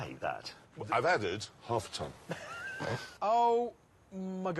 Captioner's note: richard laughs